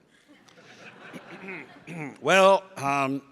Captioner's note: audience laughs